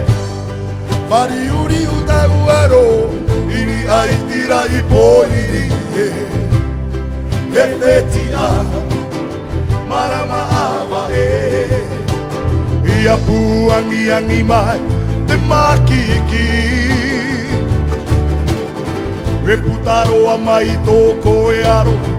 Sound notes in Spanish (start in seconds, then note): 18.0 viento